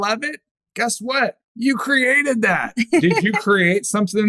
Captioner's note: laughter